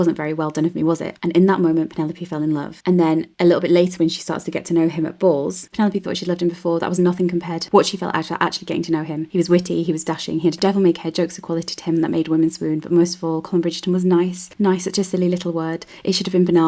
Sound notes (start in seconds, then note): none